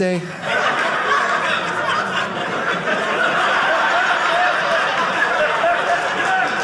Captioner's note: audience laughing